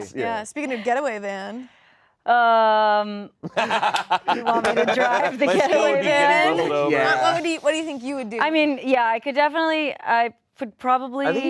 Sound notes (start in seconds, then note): 3.5 laugh